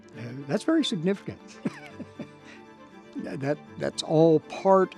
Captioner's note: chuckles